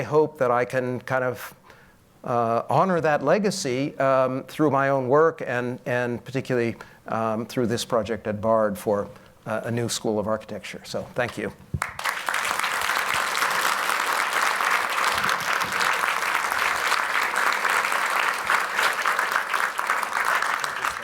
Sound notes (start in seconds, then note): 11.8 applause